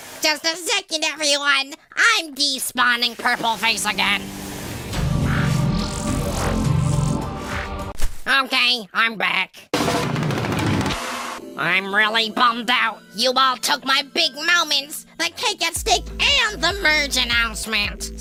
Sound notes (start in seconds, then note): 4.0 ominous music; 4.1 vibration noises